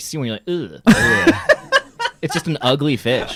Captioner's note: laughing